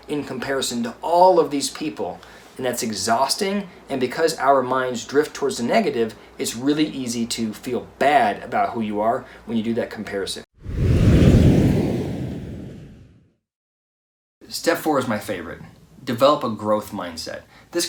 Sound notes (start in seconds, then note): 10.6 air whooshing